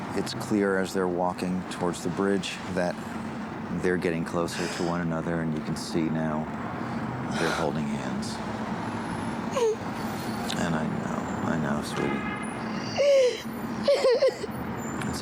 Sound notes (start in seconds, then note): 9.5 sobbing; 12.6 crying